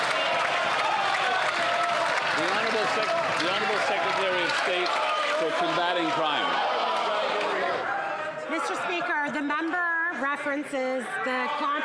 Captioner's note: some Applause